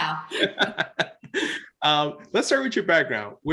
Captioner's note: both laugh